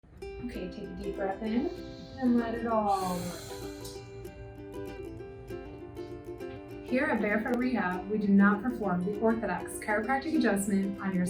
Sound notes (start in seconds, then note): 1.5 inhales; 3.0 exhales out